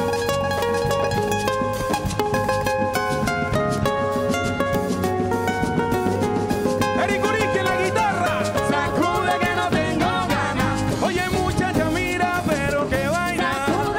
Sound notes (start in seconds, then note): 7.1 speaks in Spanish; 8.8 singing in Spanish